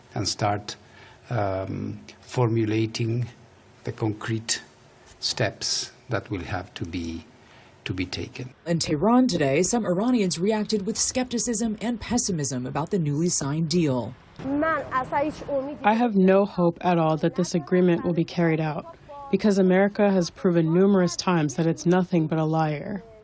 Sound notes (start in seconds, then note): 15.2 through translator